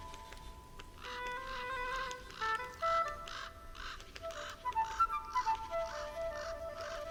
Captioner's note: krakanie kruków, szum wiatru